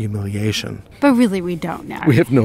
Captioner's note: voiceover